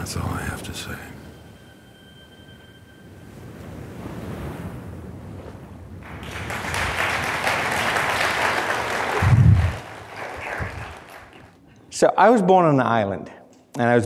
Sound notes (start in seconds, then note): 6.0 applause